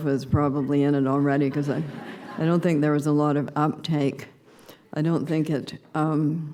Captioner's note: laughter